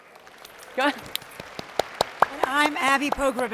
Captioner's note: audience applauds